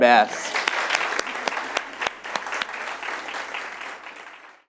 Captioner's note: audience claps